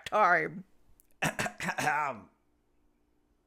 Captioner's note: clears throat